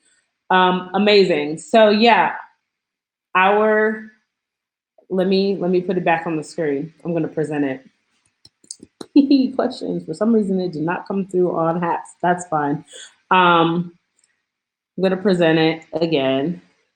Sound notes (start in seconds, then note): none